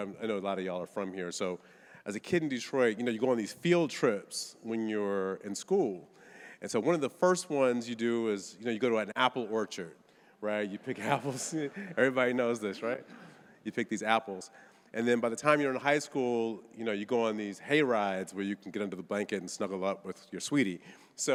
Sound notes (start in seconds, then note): 10.7 audience laughing